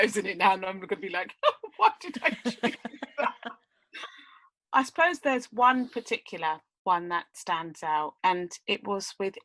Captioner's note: laughs